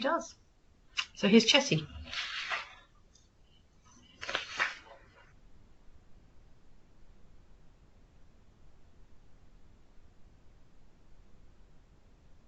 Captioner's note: silence